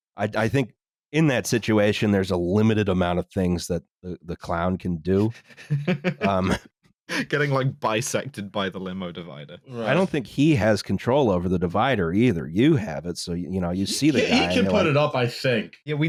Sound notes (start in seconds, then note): 5.2 laughs